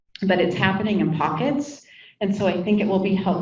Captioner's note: none